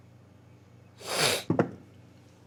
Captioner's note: sniff